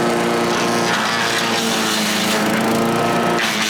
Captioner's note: buzzing